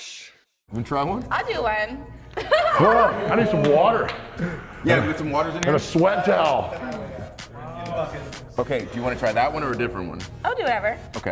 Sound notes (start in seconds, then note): 4.2 laugh